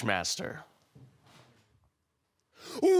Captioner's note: silent